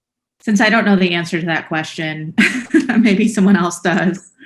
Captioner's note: laughs